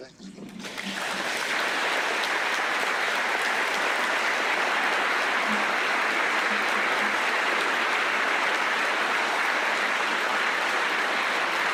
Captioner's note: applause